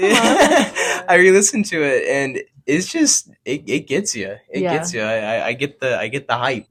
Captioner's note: laughing